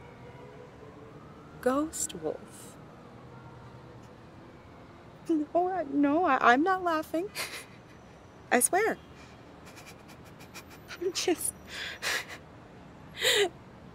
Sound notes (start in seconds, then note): 2.9 trying not to laugh